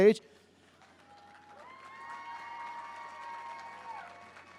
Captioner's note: crowd cheers